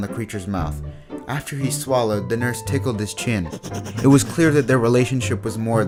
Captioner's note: cue monster laugh